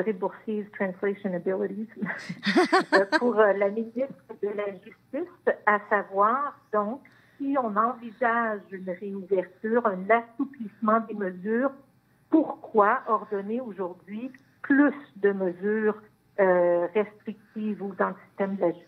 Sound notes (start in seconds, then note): 4.5 speaking in French